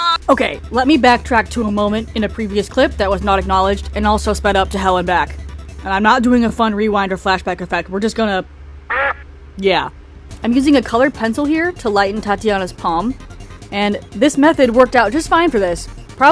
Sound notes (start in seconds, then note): 8.8 quack